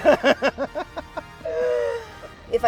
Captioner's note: laughter